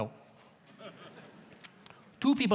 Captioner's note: audience laughs